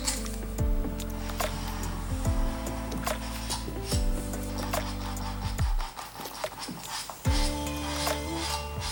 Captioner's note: scratch sounds